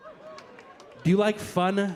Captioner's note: audience laughing